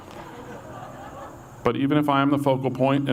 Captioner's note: audience laughs